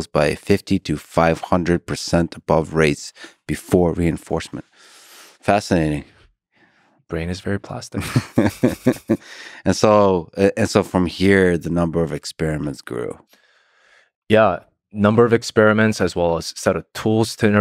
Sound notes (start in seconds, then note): 7.9 Lex laughs